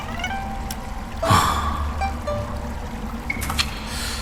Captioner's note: sigh